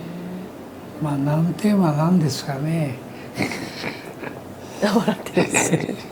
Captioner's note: laughs